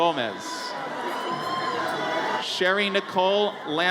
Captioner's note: audience cheers